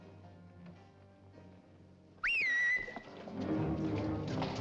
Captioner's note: a whistle signal